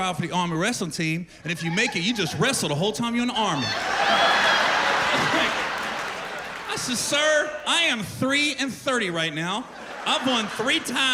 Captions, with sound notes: the Army, you can try out for the Army wrestling team and if you make it, you just wrestle the whole time -you in the Army." -[laughter] I said, "Sir, I am 3 and 30 right now.